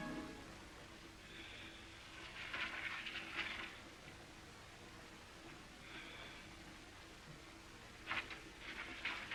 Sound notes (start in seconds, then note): 3.0 paper shuffling